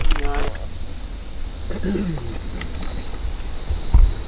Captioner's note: crickets chirping